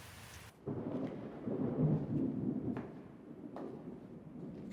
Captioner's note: thunder rumbling